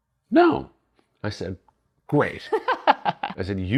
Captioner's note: laughing